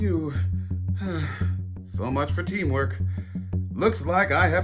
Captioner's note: sighs